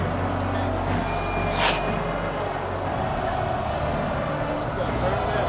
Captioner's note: crowd chanting Goldberg